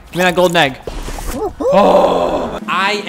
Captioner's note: groans